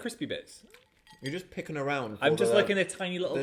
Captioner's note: bits rattling